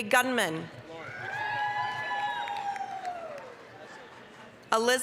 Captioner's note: applause, cheering